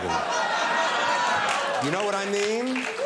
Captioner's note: crowd laughs